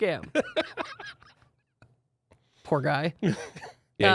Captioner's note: laughing